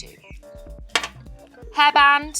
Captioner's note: bottle taps tabletop